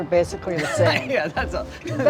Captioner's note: laughs